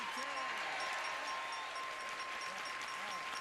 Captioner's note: applause